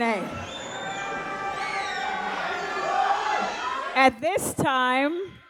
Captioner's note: audience applauds